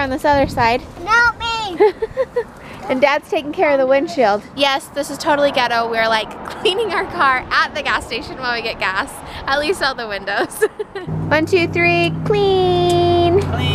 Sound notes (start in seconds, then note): 1.7 laughs; 10.4 laughs